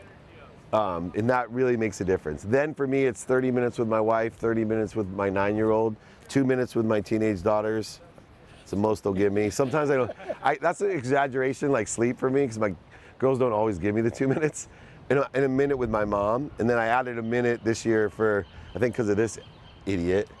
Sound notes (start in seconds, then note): 9.5 audience laughs